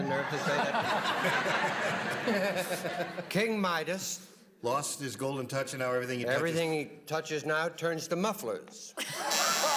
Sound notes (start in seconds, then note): 1.8 laughter